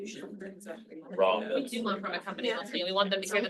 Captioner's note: people chattering